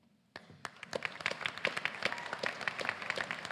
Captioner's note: applause